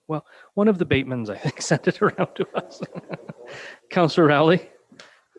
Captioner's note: laughs